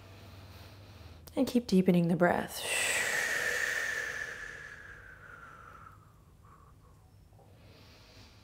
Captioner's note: exhales; inhales